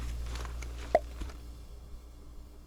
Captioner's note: pop